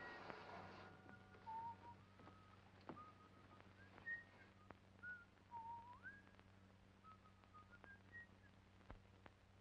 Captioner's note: whistles